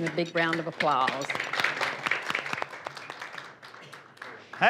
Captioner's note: applause